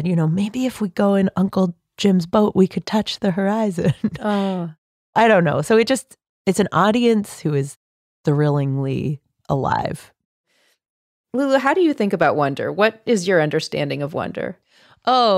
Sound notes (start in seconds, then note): 4.0 laughing